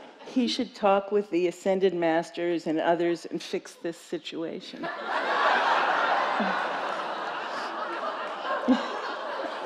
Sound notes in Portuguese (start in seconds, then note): 4.8 risos da plateia